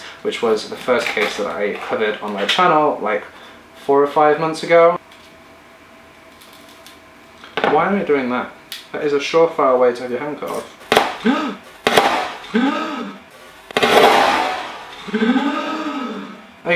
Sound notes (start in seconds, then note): 10.9 chopping onion; 11.0 gasps; 12.4 gasping in slow motion; 14.6 gasping in slow motion